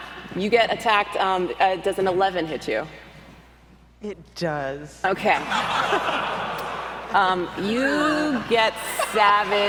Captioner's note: everyone laughs